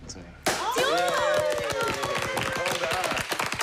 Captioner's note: applause